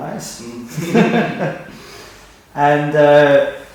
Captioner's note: both laughing